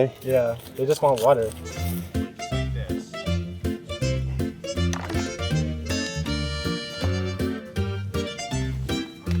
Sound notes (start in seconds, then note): 1.6 upbeat music playing; 4.9 rocks rattling